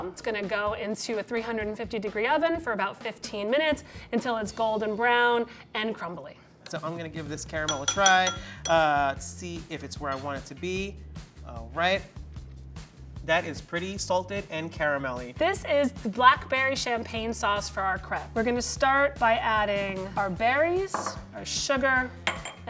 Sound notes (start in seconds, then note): 7.6 glass clinking